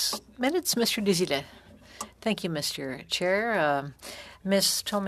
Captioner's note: speaking French